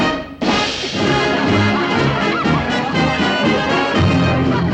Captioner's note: laughter